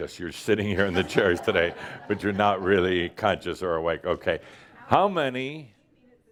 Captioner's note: laughter